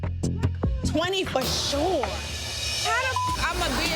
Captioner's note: beep